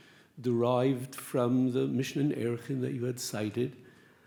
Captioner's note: speaks Hebrew